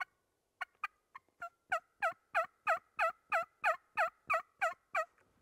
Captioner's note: turkey calling continues